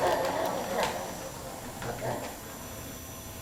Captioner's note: vacuum noise approaching